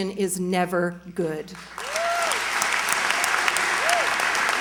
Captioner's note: cheers, applause